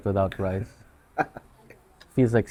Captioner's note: laughs